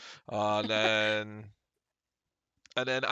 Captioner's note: laughs